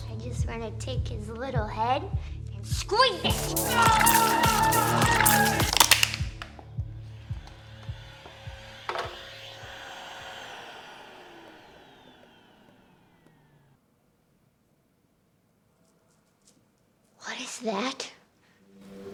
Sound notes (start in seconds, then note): 3.7 sound of screaming; 5.8 sound of plastic cup being crushed; 9.1 sound of vacuum cleaner